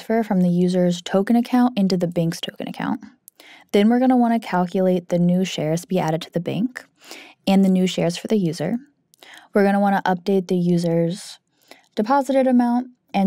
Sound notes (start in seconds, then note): none